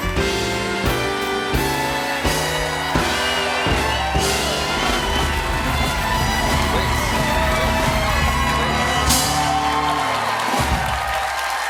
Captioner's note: cheers and applause